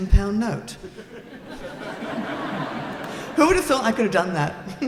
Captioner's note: laughing